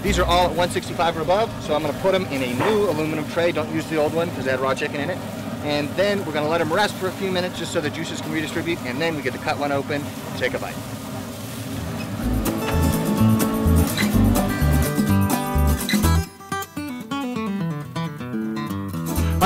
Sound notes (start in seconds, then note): 11.5 sound of Smoker; 11.8 guitar Music